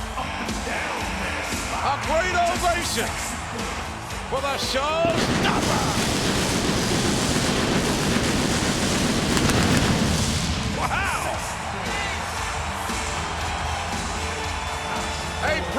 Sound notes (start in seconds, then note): 5.0 pyro blasting; 12.0 audience cheering